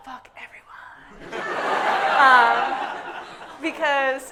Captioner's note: audience laughing hysterically